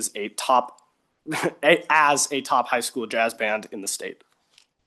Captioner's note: chuckles